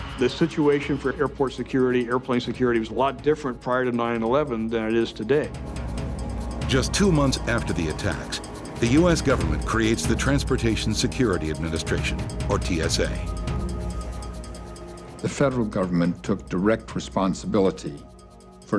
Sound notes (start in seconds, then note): 6.8 voiceover